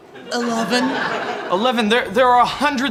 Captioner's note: audience laughing